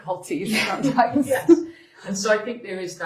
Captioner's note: chuckle